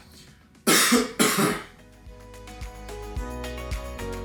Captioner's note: person coughs